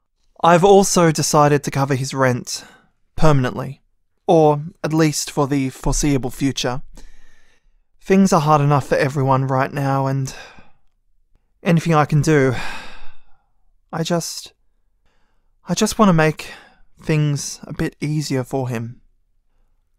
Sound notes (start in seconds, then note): 12.5 sigh